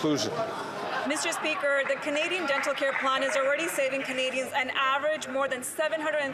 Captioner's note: some Applause